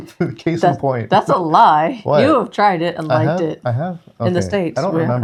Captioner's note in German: lacht